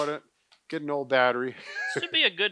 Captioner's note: laughs